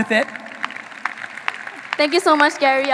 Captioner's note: audience applauding